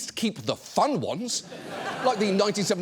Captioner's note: audience laughs